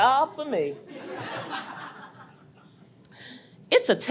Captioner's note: audience laughs